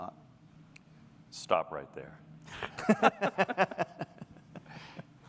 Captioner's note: laughter